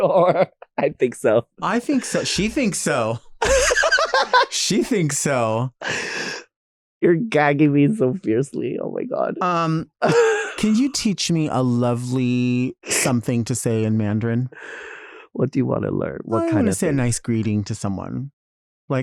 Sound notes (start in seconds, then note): 3.4 both laughing